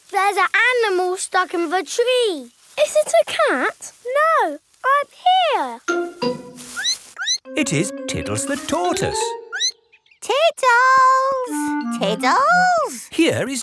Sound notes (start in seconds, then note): 6.6 squeaks; 9.5 squeaks